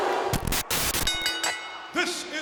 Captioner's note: audience booing; static crackling; bell ringing